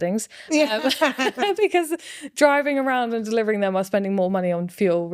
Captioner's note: laughing